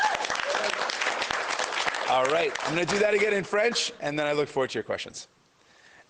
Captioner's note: cheers and Applause